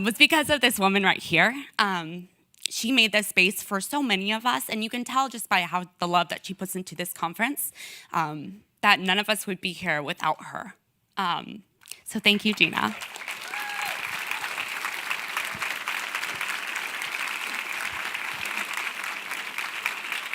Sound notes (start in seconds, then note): 12.3 audience clapping and cheering